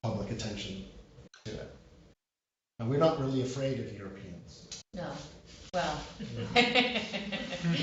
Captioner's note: laughter